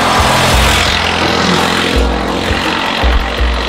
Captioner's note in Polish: dźwięk jadącego samochodu